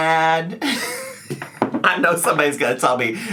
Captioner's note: laughs